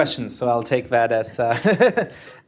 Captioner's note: laughter